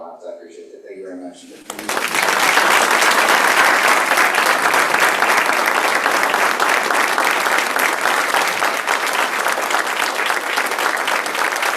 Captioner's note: applause